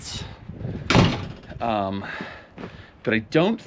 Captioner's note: door thuds